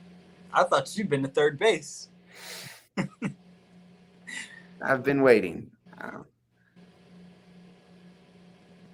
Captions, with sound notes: - I thought you'd been to third base? (laughs) - I've been waiting.